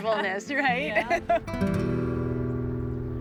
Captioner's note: laughs